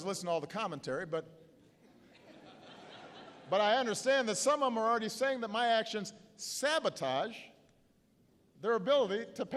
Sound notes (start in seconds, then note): 1.9 laughter